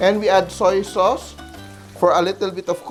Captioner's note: sizzles